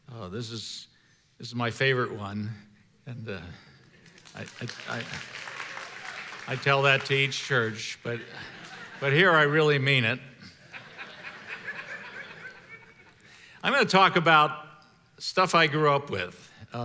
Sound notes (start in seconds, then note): 3.9 congregation applauding; 10.4 congregation laughing